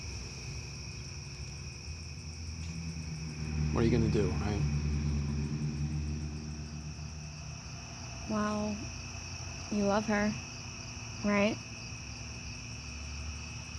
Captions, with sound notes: (crickets chirp) - What are you gonna do, right? (traffic whirs) - Well, you love her, right?